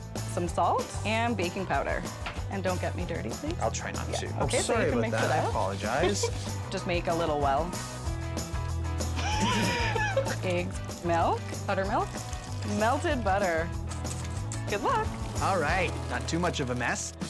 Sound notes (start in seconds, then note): 9.1 laughing